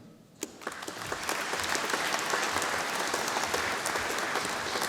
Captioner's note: audience applauding